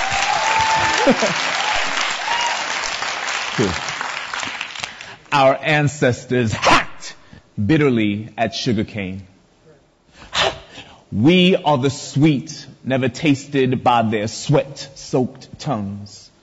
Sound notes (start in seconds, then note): 0.0 audience applause, laughter